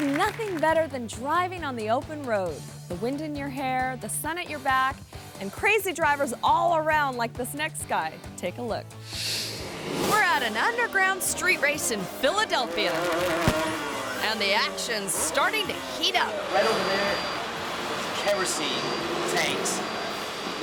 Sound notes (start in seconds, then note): 0.0 audience clapping; 9.1 graphics whooshing